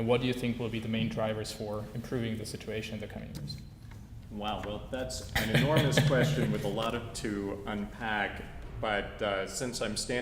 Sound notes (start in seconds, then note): 5.3 laugh